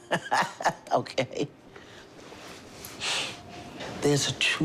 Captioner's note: laughs